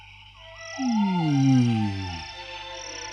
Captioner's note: birds call and insects chirp; Toad sighs